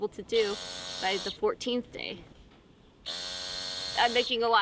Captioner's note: buzzing